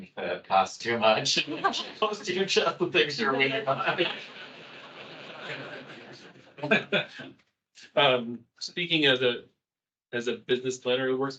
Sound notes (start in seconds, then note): 4.6 attendees laughing